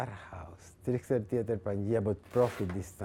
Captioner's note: speaking foreign language